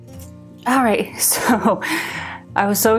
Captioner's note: laughs